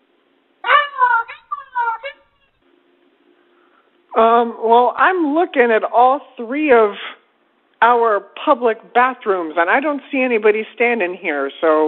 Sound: dog barking

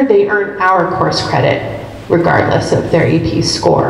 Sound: none

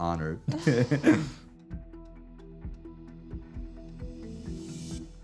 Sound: laughter

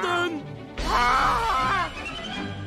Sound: groaning

